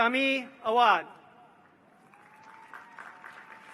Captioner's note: applause